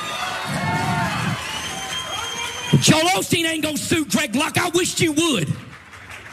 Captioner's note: applause